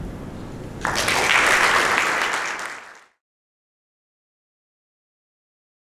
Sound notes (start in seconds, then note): 0.8 audience applauds